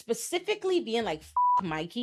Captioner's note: beep